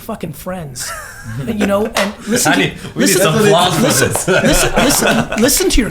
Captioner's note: laugh; mumbles